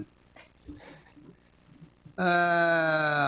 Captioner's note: board member chuckles